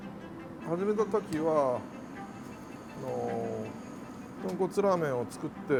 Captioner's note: speaking in Japanese